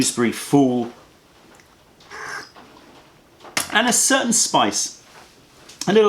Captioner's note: sips tea